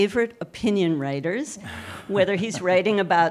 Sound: laughing

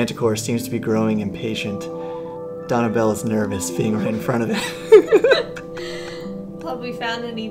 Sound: both laugh

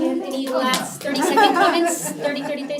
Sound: laugh

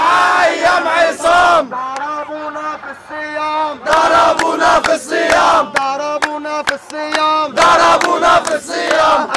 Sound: chants

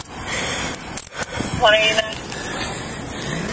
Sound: radio chatters

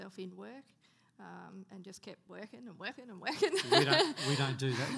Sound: laughing

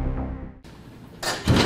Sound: nats of door slammin

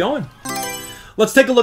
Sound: Mario Selection Sound

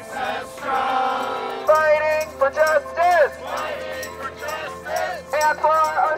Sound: chanting

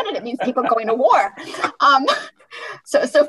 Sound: laughter

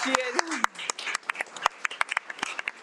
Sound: audience clapping

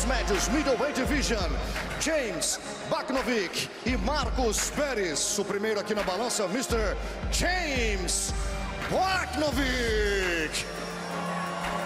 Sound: speaking foreign language

